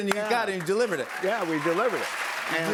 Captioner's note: cheers and applause